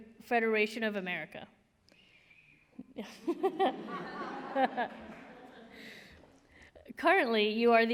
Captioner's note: laughter